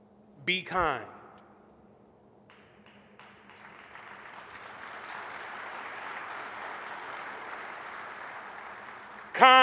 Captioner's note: applause